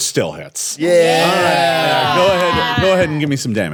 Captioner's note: cheering